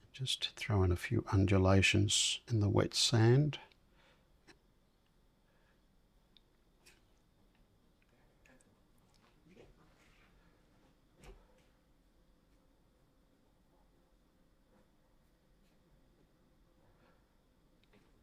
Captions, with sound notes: Just throw in a few undulations in the wet sand. [silence]